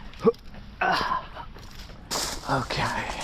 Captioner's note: grunts